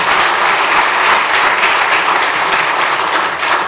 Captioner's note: applause